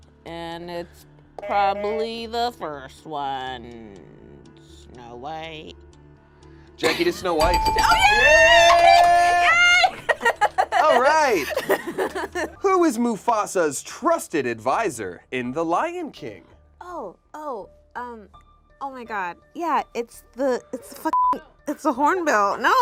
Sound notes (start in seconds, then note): 8.0 buzzer rings; 8.3 laughs; 10.1 group cheers; 21.1 beep